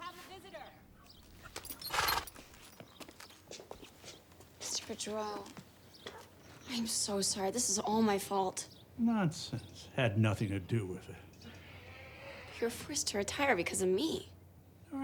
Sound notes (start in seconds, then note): 1.0 horse shudders